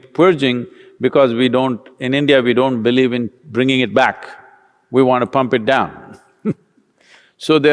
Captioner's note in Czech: smích